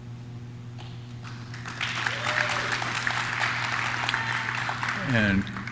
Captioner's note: audience claps; audience cheers